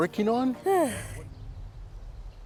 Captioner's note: sighs